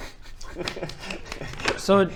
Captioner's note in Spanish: bofetada bofetada